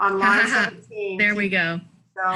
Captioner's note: laughs